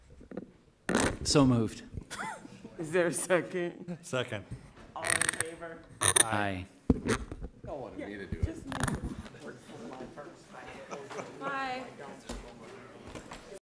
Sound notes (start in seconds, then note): 9.1 background chatter